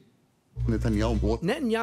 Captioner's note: speaking in hebrew